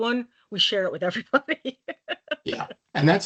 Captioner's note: laughing